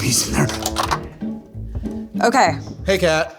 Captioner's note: coin clicking